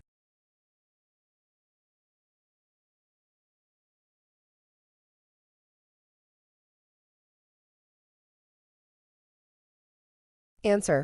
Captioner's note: no audio